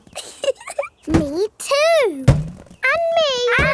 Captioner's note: chuckles